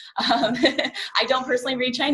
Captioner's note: laughs